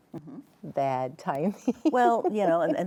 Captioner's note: laughs